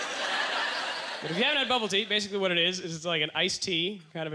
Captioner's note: audience laughter